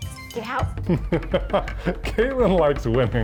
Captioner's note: laughs